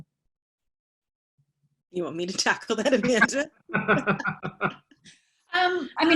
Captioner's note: laughter